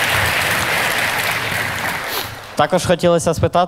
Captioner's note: the audience cheers